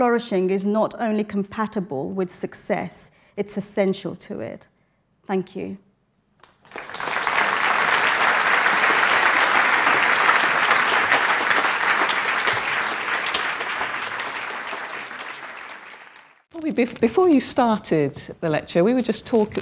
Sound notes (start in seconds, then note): 6.4 applause